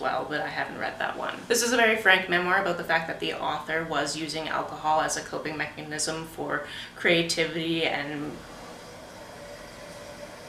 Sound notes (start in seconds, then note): 7.8 toilet in next room runs loudly